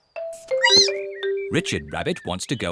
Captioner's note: squeaks